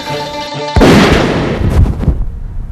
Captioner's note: gunshot